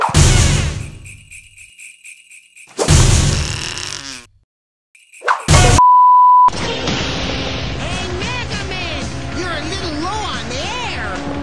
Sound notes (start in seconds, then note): 3.0 blows raspberry